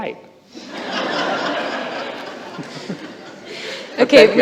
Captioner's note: laughter